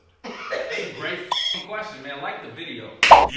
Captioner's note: laughing; sound effect